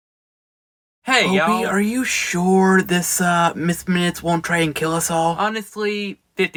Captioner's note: Miss Minutes boots-up